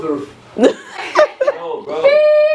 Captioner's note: laughter